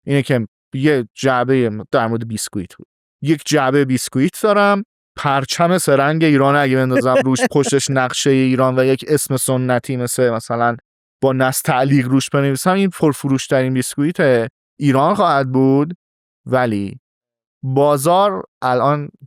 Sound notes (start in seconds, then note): 6.9 laughs